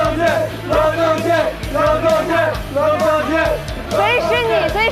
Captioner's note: cheering